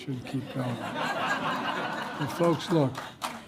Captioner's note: laughter and applause